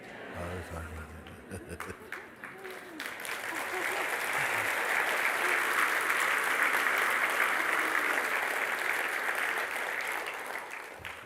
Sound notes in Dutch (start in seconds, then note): 3.0 gelach en applaus